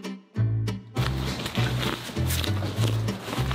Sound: digging

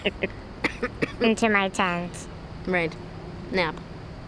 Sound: laughs; coughs

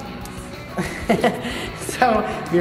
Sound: laughter

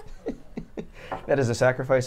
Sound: laughs; chuckles

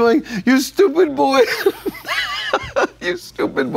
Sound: laughs

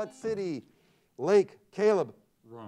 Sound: buzzer sounds

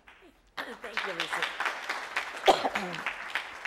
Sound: applause

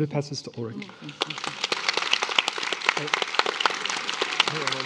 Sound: attendees applauding

